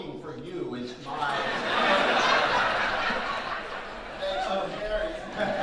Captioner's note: audience laughing